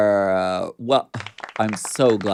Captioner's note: crowd applauding